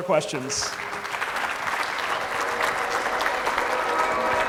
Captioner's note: clapping